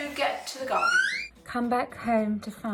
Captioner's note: Rupert squeals in background